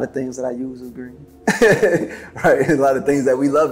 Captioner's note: laughing